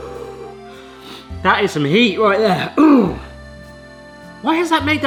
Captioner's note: light gentle music; panting; clears throat